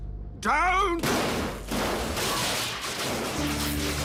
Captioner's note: crashing and electrical zapping